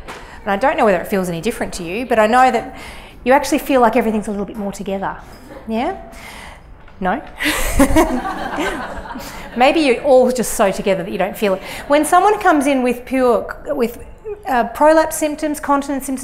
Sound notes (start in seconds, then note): 7.4 laughter